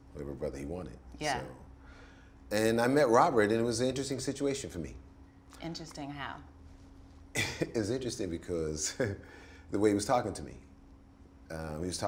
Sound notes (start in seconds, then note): 7.3 laughs